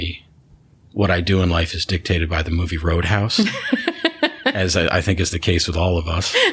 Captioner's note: laughter